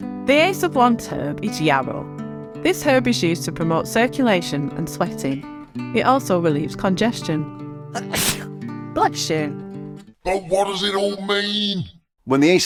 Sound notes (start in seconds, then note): 7.9 fool sneezes